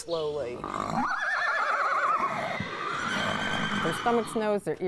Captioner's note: horse whinnies insistently